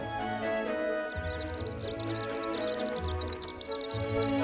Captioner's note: loud chirping